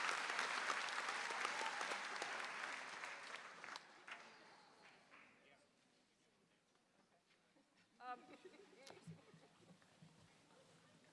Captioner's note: applause